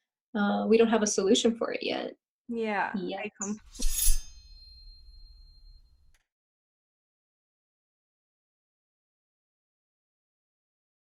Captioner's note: slice sound effect